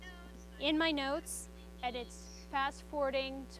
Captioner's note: pen recording plays